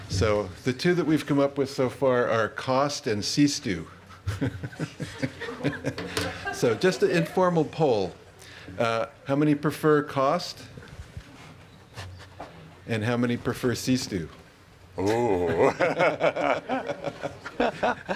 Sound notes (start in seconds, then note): 4.1 laughing; 15.0 laughing